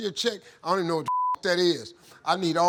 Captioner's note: beep